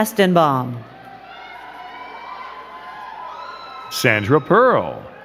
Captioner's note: crowd cheering and clapping